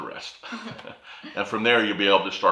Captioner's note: chuckles